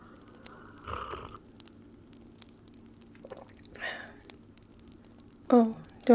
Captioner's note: takes a sip, swallows and sighs